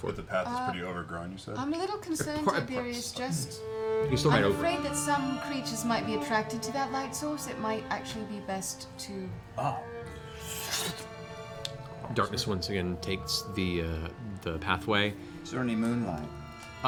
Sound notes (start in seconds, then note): 10.3 snuffing sound